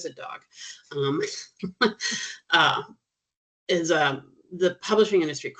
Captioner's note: chuckling